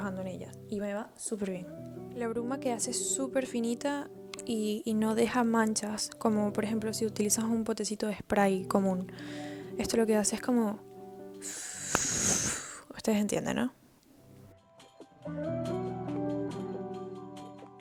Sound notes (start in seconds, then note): 11.4 psssfffsfsfs